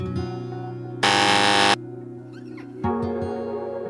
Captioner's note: warning buzzer